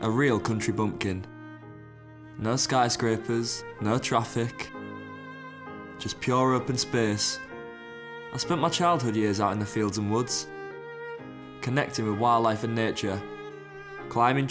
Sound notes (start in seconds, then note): none